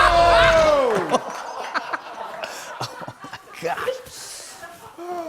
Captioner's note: laughter